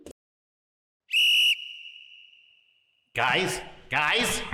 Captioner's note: whistle blows